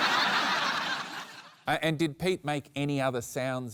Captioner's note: laughter